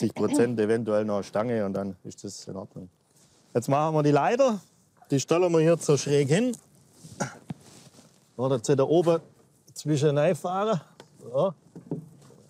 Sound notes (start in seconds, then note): 7.8 moan